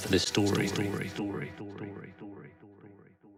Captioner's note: echo